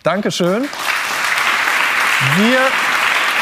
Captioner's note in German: Applaus